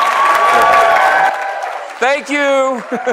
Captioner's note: applause; cheering